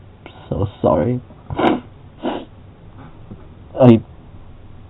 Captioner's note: sobbing